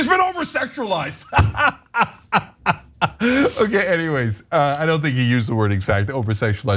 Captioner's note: laugh